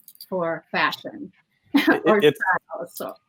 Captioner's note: laughing